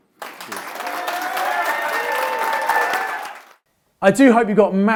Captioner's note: crowd applauding